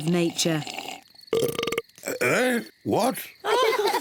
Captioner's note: burps; all laugh